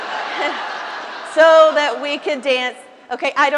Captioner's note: laughter